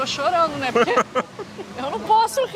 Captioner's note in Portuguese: risos